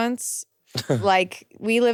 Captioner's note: laughing